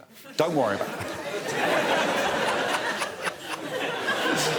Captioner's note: laughs